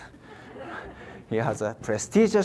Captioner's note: audience laughs